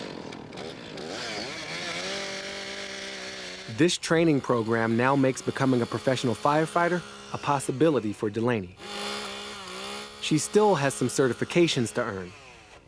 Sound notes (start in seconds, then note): 2.1 chainsaw revving